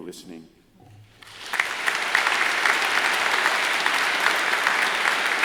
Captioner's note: crowd applauds